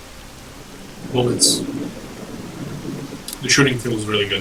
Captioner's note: thunder and heavy rain